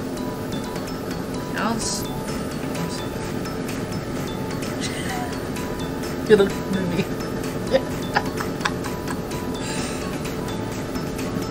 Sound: laughs

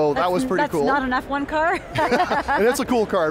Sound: she laughs

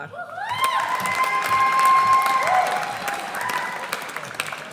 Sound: audience cheers

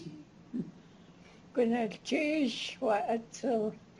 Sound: non-english speech

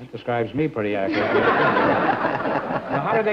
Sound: laughs

